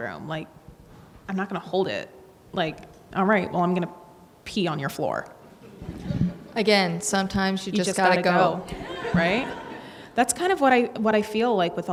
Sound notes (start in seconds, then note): 8.6 audience laughs